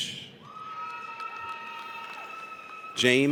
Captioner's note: audience cheers